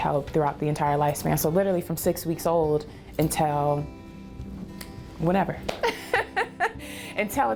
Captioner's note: laughs